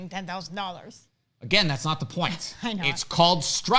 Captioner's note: laughs